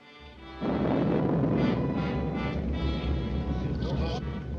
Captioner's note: low Chattering